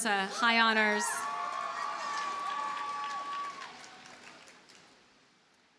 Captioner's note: audience cheers and applauds